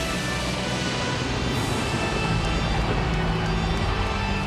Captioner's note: thunder booms